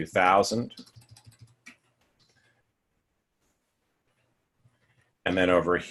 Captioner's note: typing